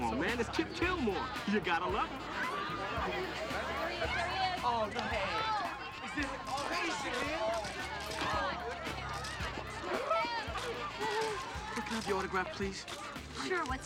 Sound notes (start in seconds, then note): 4.3 yelling; 5.4 crowd clamoring; 9.7 gasping